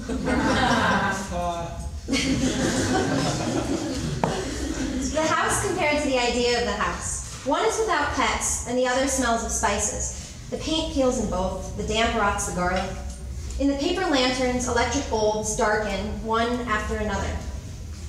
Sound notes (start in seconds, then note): 0.0 audience laughs; 2.1 laughing